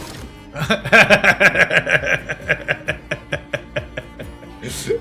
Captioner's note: laughs